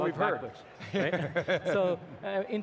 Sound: everyone laughs

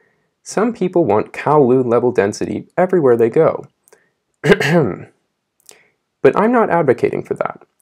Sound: ahem

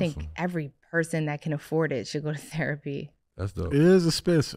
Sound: chuckles

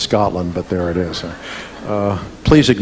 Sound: audience laughing

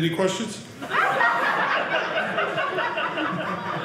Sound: audience laughing

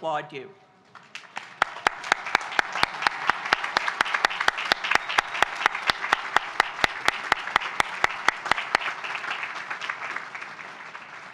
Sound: applause

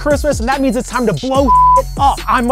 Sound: beep

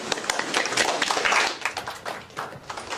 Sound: applause

